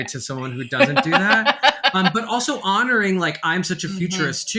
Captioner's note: laughing